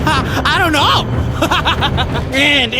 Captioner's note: chuckles; manic laughing